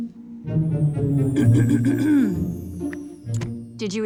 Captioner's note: clears throat